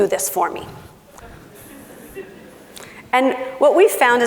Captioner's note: laughing